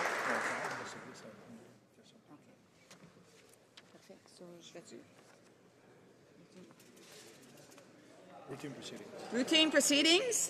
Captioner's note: some Applause